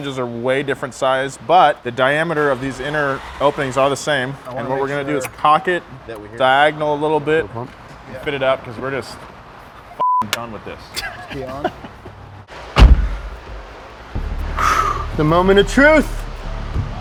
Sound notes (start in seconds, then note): 10.0 beep; 10.9 laughing; 12.7 car door closing